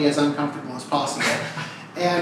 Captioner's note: laughs uncomfortably